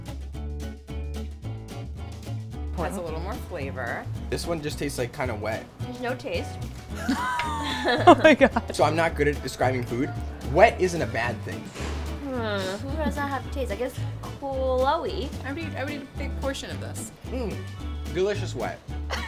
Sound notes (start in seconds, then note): 0.1 soft music; 7.0 laughs